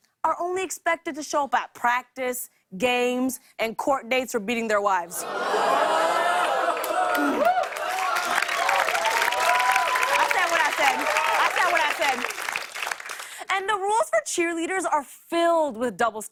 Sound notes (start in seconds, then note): 5.2 audience oohs; 5.2 cheers and applause